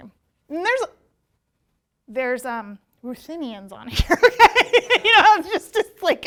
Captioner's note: laughs